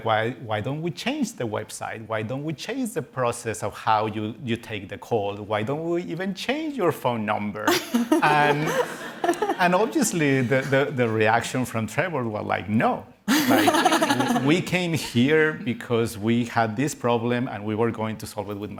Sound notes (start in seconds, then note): 8.1 laughter